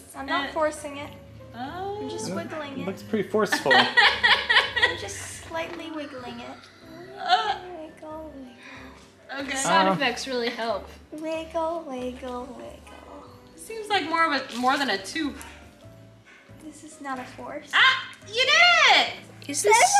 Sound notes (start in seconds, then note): 3.6 mom laughing